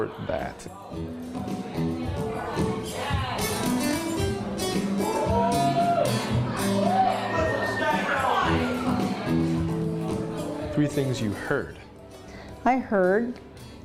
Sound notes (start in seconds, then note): 1.2 funky band music; 1.3 chattering